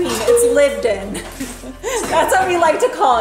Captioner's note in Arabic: ضحكة كريستالية